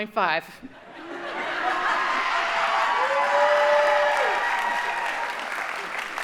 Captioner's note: audience cheering and applauding